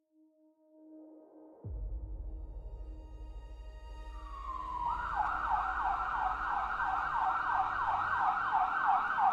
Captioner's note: sirens wailing